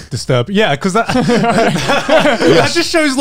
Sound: everyone laughs

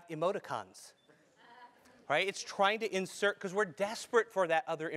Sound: laugh

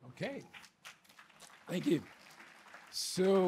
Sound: audience applauding

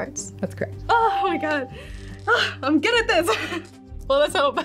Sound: sighing

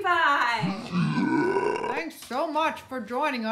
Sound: growling

